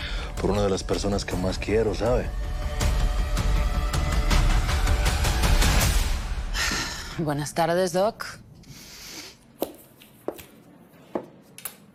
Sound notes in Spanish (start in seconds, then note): 6.5 Suspiro